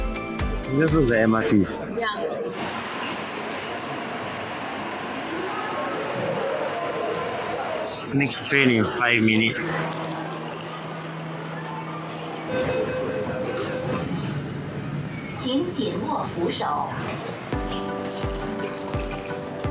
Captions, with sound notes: This just looks like MRT? Yah Next train in 5 minutes (doors closing) [PA announcement]